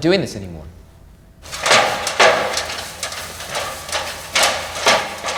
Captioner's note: metallic rattling